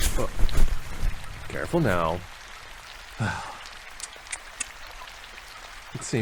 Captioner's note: sound of body falling and being caught; sigh